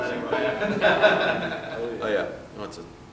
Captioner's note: laughter